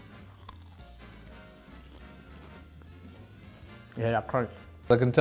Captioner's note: food crunching